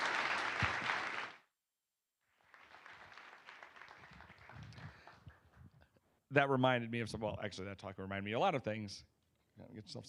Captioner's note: applause